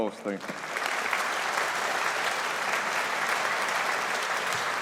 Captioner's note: audience applauding